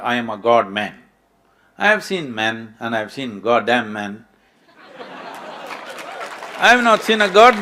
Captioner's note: laughter/Applause